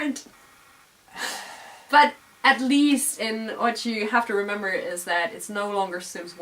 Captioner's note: laugh; sigh